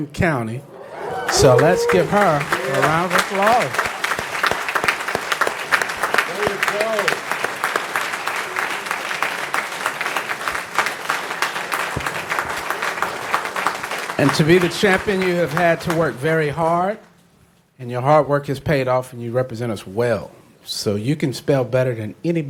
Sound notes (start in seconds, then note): 9.0 applause